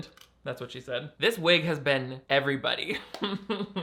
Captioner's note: laughs